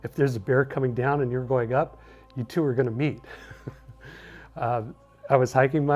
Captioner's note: chuckles